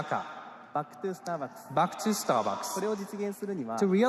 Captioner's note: speaking japanese